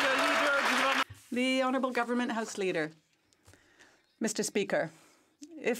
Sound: some Applause

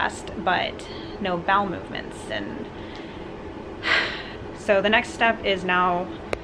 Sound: sighs

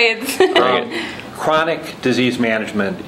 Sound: laughing

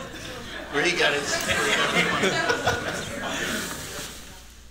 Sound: laughter

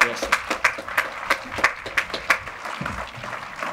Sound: audience applauding; speaking faintly

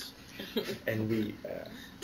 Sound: laughter

